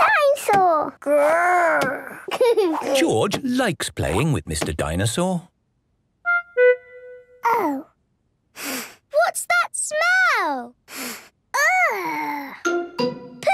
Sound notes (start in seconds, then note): 2.1 giggles; 8.6 sniffs; 10.9 sniffs